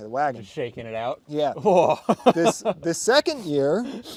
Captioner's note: laughing